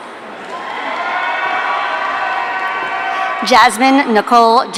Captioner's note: audience cheering